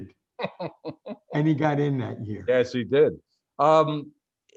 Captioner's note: laughs